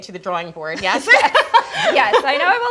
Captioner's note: laughing loudly